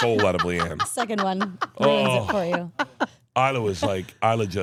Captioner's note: laughs